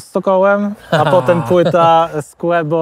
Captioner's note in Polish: śmiech